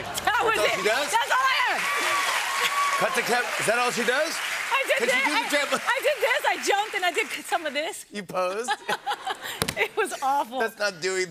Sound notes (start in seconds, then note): 1.9 cheers and applause